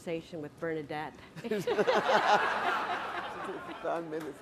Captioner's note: laughter